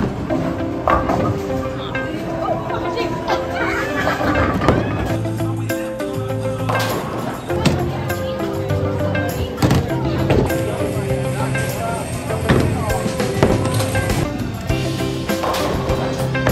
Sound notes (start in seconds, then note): 0.1 people chattering; 4.2 bowling pins crashing